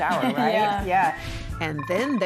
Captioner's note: laughing